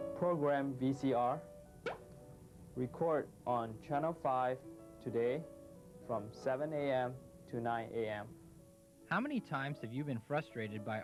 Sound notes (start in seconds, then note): 1.8 popping sound